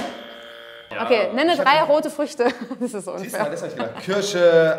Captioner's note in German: lachend